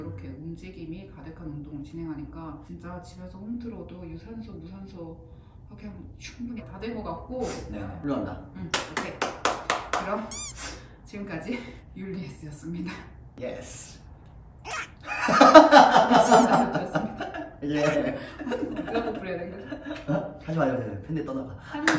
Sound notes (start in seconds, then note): 8.7 clap clap clap